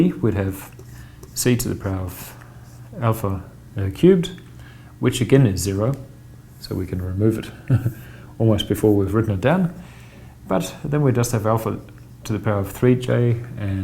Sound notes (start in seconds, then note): 7.6 softly chuckles